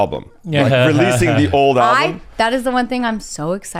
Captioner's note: laughs